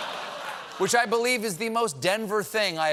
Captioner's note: laughter